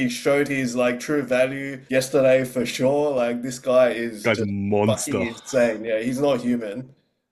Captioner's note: laughs